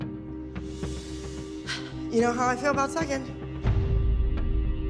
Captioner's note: sighs